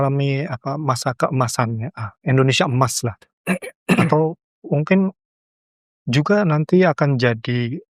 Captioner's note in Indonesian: berdehem